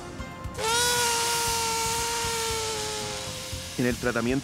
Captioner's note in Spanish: Sonido desinflandose